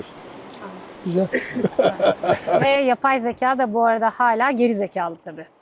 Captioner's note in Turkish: kahkaha